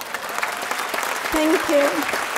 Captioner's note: audience applauding